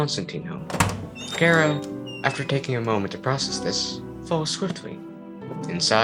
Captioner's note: door opens